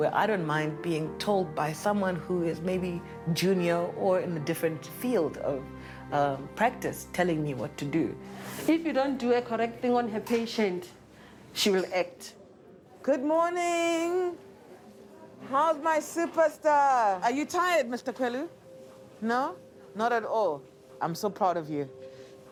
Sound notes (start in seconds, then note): 14.1 indistinct chatter